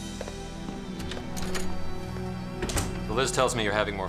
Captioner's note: door closes